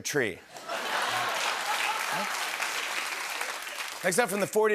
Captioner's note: laughter and applause